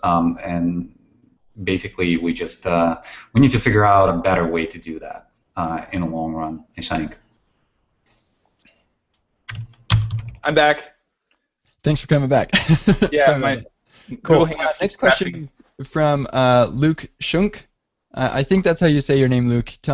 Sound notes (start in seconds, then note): 12.6 laughs